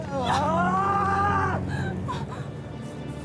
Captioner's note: crying, shouts